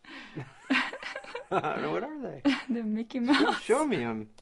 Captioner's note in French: rires